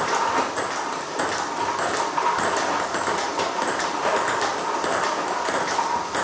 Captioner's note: ball ping pong hitting continues